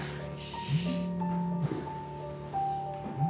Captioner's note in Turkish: Telefon titriyor